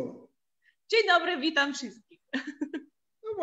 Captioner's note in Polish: śmiech